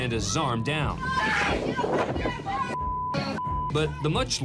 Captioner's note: overlapping shouting